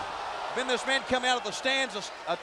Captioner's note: crowd cheering